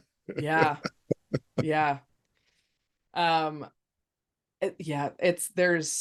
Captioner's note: laughing